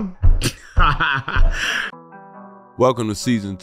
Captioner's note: laughing